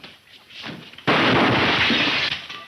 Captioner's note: glass shattering; gun firing